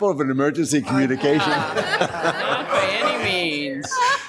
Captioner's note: members laughs